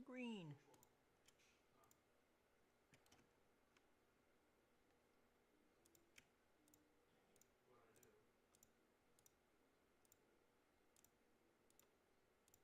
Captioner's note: mouse and keyboard clicking